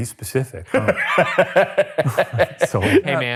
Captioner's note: laughing